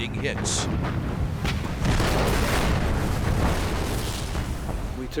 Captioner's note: explosion